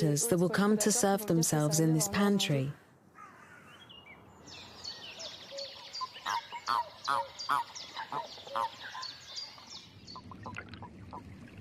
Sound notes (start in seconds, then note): 3.2 birds chirping; 4.5 toad croaking